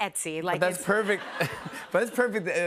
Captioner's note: laughter